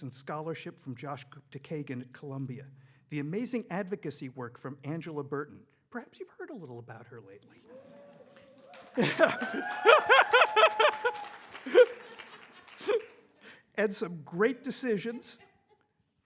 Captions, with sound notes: and scholarship from Josh Gupta-Kagan at Columbia, the amazing advocacy work from Angela Burton. Perhaps you've heard a little about her lately. (audience clapping) And some great decisions